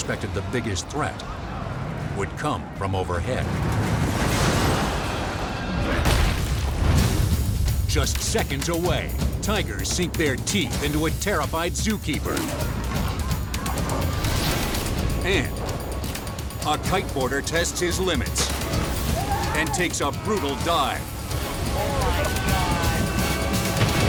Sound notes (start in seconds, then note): 4.4 crane slams; 6.1 logo slams